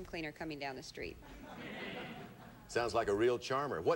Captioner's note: audience laughing